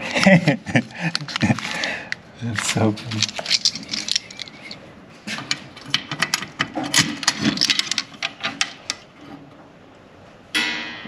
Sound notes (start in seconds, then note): 0.0 laughing; 3.0 keys jangling; 4.1 lock scraping